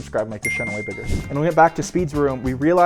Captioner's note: bell dings